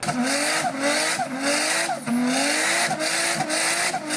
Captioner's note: car sputtering